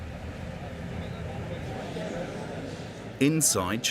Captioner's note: people chattering